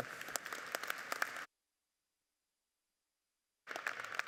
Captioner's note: audience applauding